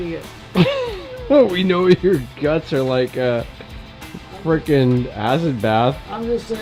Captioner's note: laughs